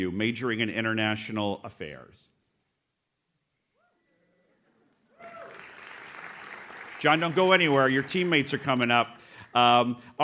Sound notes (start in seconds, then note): 5.2 audience claps